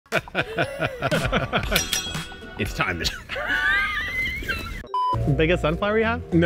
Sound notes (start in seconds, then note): 0.1 both laughing; 1.6 tools clink; 2.1 upbeat music; 2.9 both laugh; 4.3 film reel beeps; 4.3 playful music